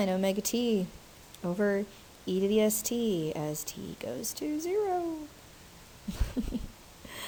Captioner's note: laughs